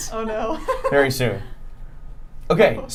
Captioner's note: laughing